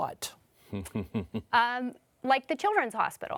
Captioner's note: panelists laugh